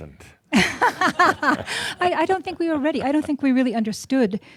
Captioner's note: chuckles